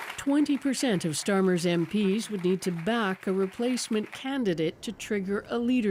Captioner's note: applause